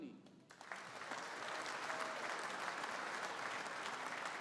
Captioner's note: audience applauding